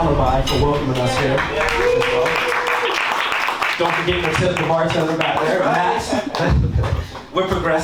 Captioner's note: laughs